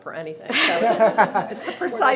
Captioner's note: laughter